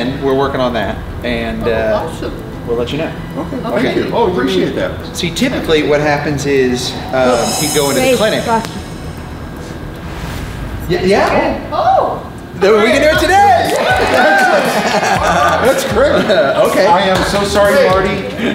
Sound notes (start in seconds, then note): 13.0 everyone cheering